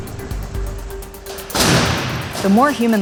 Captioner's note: car crashes